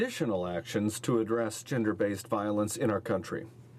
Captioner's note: speaking in french